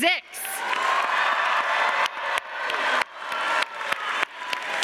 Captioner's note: all cheering and applauding